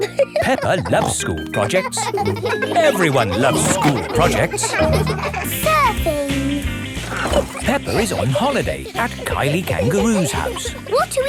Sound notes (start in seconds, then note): 0.0 snorts and laughs; 2.4 children laughing